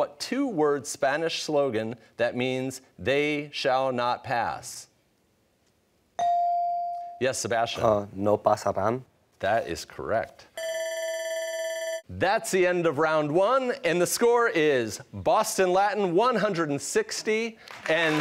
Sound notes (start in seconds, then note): 10.6 bell ringing